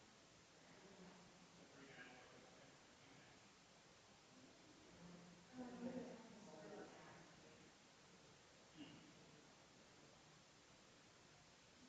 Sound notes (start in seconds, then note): 6.3 people chattering distantly continues